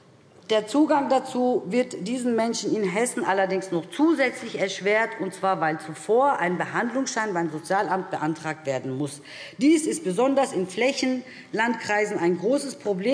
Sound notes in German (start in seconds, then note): none